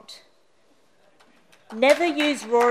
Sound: applause

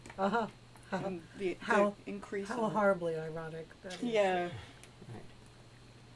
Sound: laughting

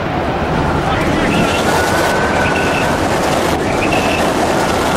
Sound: wind gusting

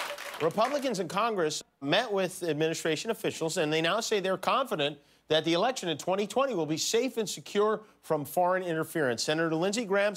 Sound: applause

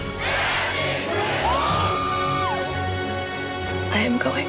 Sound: screaming

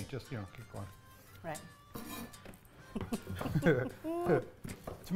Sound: laughing

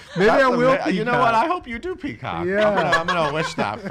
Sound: laughing

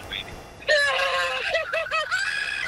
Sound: laughter

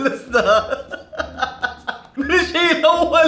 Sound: laughing

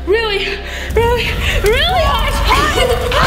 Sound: flame crackles

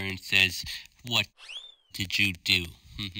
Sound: zing; fake laugh

